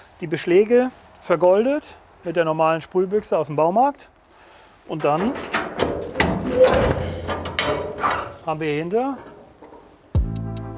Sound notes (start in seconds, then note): 4.9 metal noises; 10.1 relaxing music